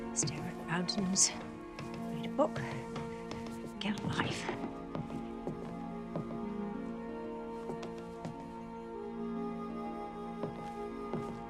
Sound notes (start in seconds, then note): 4.8 shoes clacking; 4.8 somber music